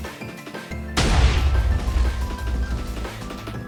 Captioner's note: explosion sounds